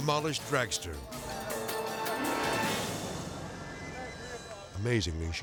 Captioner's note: dramatic whoosh